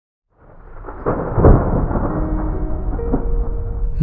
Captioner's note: thunder